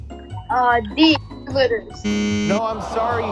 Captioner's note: machine beeping